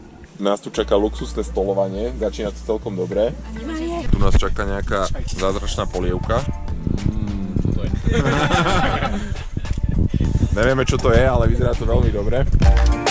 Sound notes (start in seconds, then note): 8.0 laughter